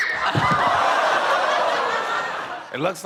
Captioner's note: girl screams; audience laughing and exclaiming